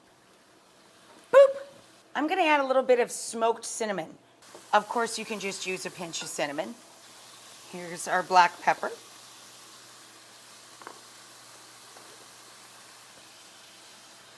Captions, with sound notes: Boop! I'm gonna add a little bit of smoked cinnamon. Of course, you can just use a pinch of cinnamon. Here's our black pepper. (food sizzling)